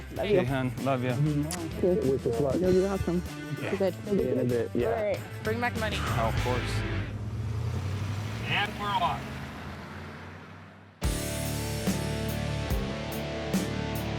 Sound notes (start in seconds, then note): 8.4 motoring off